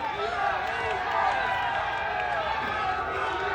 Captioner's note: audience cheers